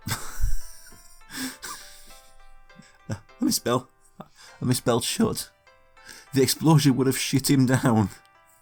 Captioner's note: laughs